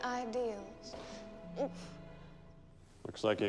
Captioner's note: groans